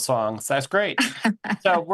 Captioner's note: laughing